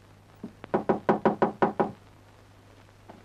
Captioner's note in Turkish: Kapının çalınma sesi